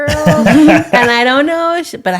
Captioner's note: laughing